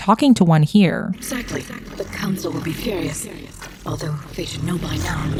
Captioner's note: Liara & geth noises